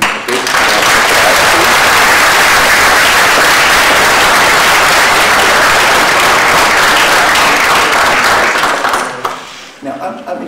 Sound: applause

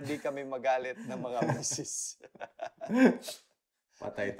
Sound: laughs

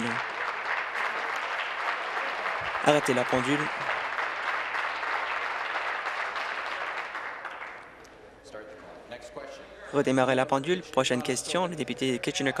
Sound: applause

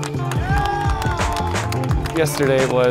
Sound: applause

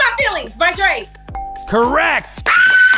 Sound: ding

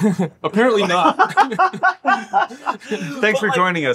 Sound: laughing

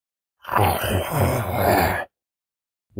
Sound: growling

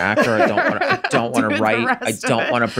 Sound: Charlie laughs; laughs

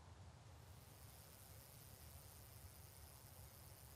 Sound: bicycle tires

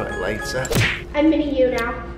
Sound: smack sound

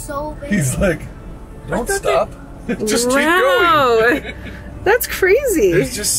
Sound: laughs

